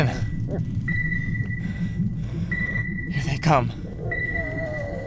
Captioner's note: radar bleeps loudly